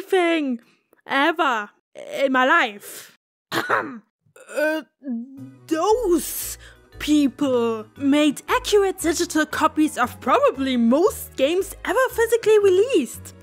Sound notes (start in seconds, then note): 5.0 cough